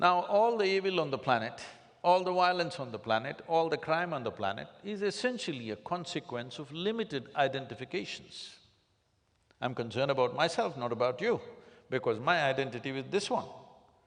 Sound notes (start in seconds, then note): none